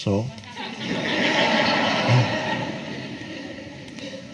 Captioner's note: audience laughs